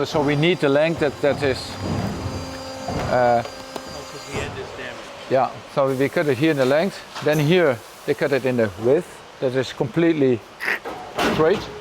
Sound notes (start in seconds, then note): 1.8 machines whirring